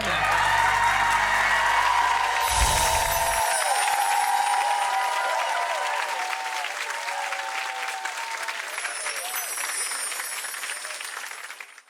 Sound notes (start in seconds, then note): 0.1 audience cheering and clapping; 2.3 bells chiming; 4.7 audience cheering and clapping; 8.6 bells chiming